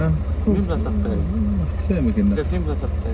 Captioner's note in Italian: parlano arabo